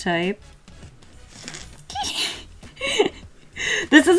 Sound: giggles

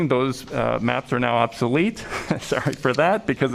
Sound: laughter

